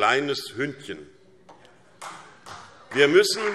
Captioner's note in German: Beifall SPD